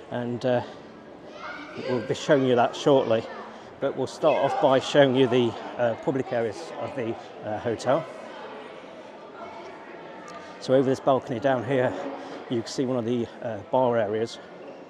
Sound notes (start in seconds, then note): 8.4 people chattering